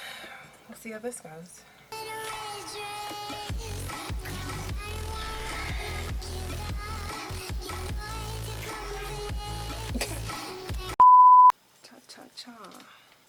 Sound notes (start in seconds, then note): 0.0 sighs; 9.9 laughs; 11.0 beep